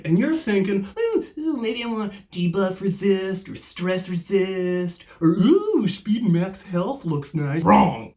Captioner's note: mockingly